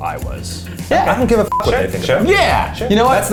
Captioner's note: beep